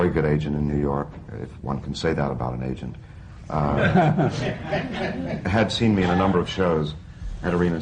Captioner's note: laughter